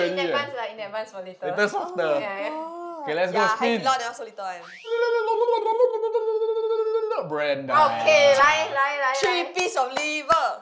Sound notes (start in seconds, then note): 4.7 mouth noises